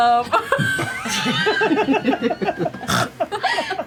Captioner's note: laughter